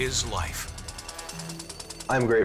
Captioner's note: drill vibrating